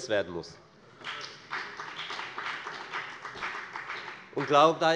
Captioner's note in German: Beifall bei der FDP